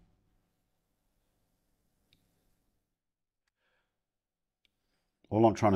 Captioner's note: silence